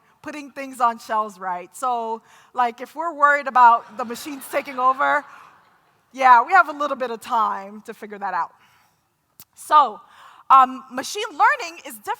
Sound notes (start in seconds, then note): 3.8 laughter